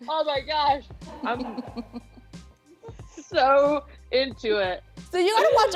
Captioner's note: laughing